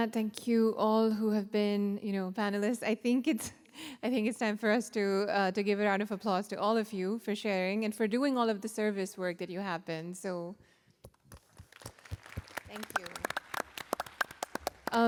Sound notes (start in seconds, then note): 11.1 applause